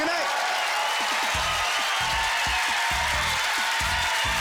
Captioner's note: cheering